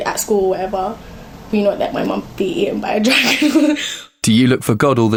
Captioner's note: she laughs